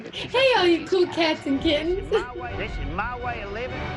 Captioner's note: chuckles